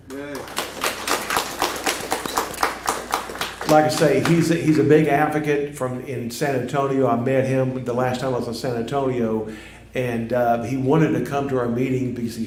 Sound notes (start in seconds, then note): 0.0 applause